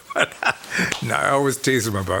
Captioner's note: laughs